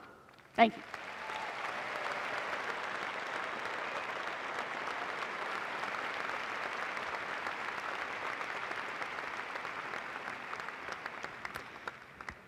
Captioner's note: applause